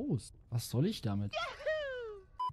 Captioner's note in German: Mario Yahoo sound